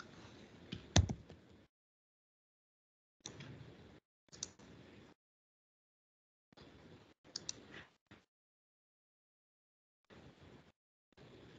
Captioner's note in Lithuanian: klikavimas